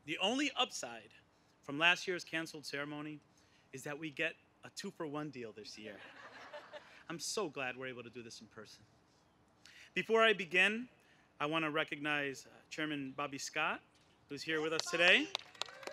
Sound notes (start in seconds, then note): 5.9 laughter